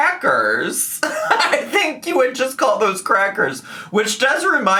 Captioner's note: laughs